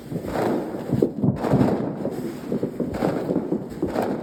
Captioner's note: sound of fireworks